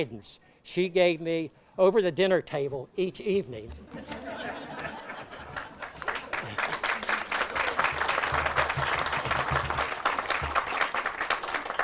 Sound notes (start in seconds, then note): 3.7 audience laughs; 6.7 audience applauds